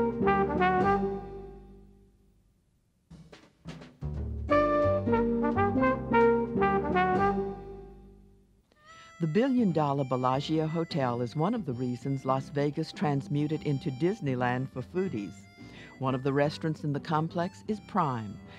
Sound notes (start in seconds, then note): 3.8 upbeat jazz music; 9.1 voiceover